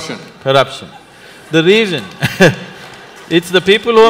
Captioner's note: laughs; laughter